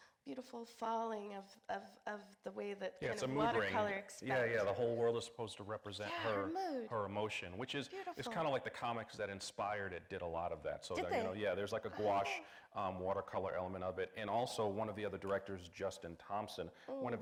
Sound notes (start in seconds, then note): none